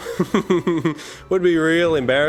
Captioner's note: chuckles